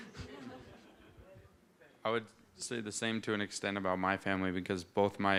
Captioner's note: laughter